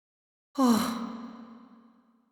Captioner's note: whew